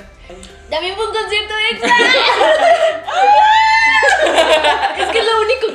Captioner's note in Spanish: Gritos de emoción